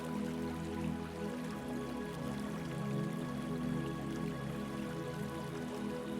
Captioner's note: water trickling